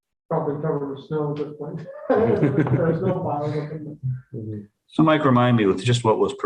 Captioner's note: laughter